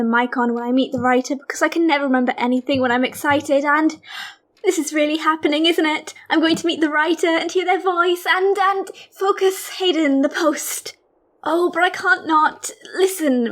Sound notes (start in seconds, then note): 3.7 gasps